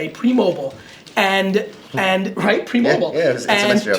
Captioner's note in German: lacht